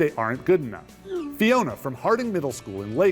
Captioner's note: screen whooshing